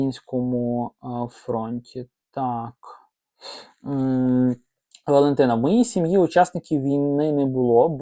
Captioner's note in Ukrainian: сопіння